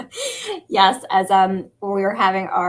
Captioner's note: laughter